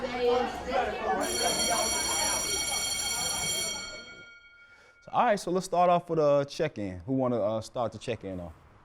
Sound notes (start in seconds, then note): 1.1 school bell rings